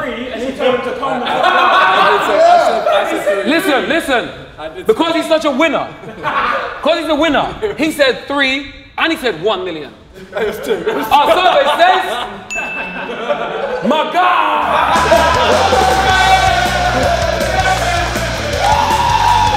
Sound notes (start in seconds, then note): 0.5 group laughs; 14.6 rock music plays; 16.3 group cheers